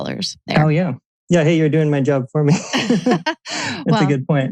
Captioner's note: laughs